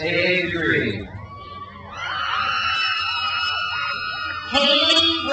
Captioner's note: crowd cheers